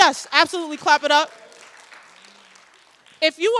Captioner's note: audience applauds